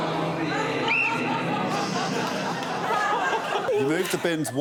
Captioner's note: whistle blows